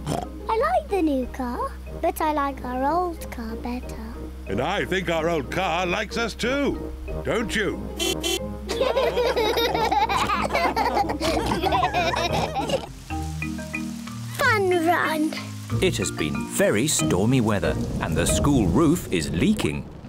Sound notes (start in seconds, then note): 7.8 horn honks; 8.6 all laughing